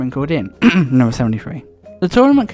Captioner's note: ahem